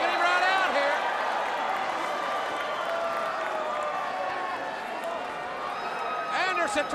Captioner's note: crowd cheering